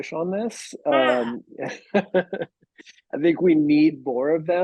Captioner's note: laughing